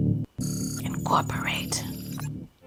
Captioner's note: electricity whirring